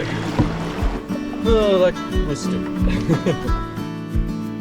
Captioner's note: laughs